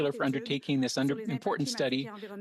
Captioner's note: speaking French